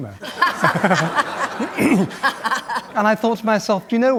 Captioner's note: laughter